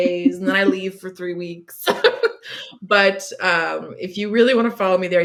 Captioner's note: laughs